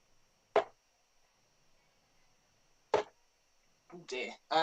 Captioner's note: dart ticks